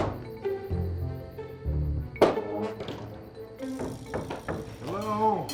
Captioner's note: thumping sounds; knocking sounds